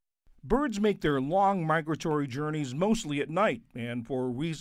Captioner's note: voice-over